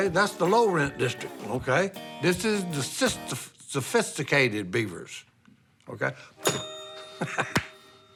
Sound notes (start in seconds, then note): 6.4 ding; 7.1 chuckles